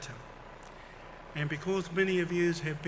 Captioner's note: foreign language